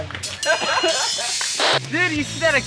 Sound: laughter

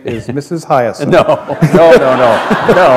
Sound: laughter

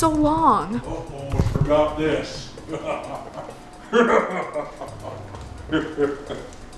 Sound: evil laughing

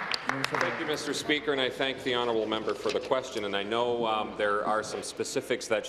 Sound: applause

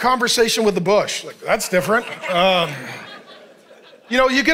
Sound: congregation laughing

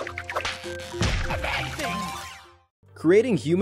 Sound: bright music; cartoon splatting

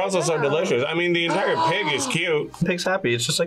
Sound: gasps

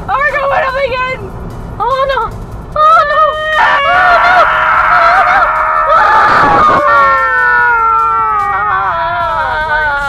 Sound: mostly incoherent screaming

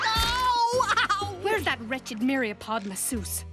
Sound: yelling

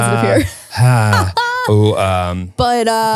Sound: laughs

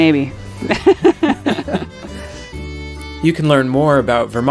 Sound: both laughing

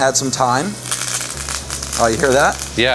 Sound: pan sizzling

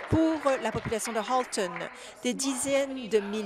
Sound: applause

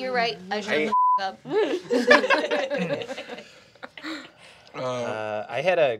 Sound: beeping; group laughing

